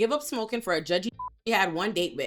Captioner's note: beep